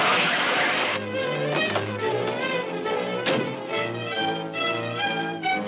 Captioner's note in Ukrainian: писк гальм